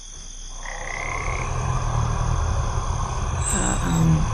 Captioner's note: monster growls